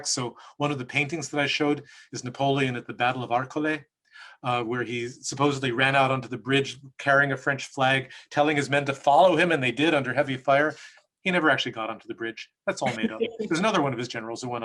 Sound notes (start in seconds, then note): 12.8 laughs